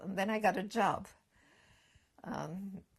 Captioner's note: pauses for 3 seconds